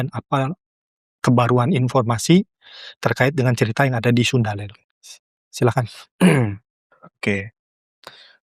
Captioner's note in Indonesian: berdehem